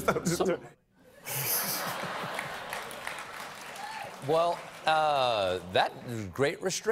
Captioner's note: laughter